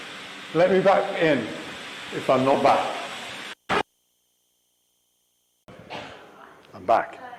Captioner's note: eldrich noise